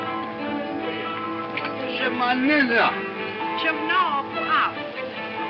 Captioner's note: speaks in foreign language